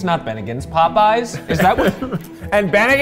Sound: laughing

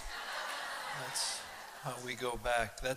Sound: laughter

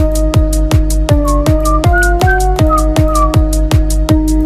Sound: f*cking whisle =

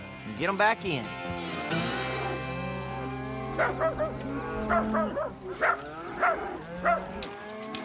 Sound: dog barking; cows moo

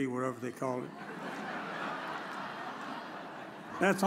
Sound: audience chuckles

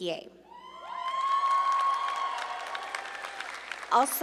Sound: audience cheering

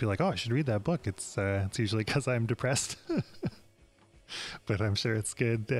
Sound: laughs

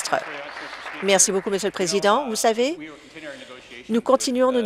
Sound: applause

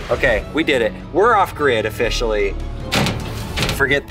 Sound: door slams

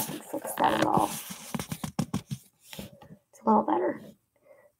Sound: camera rustling

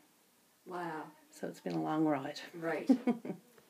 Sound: laughs

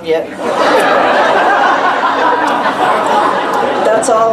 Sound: laughter

